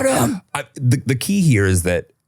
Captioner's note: laughing